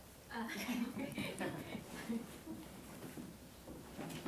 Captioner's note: laughs; audience laughs